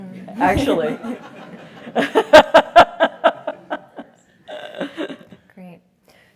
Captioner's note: laugh